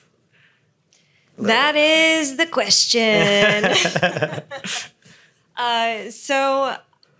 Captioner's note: laughs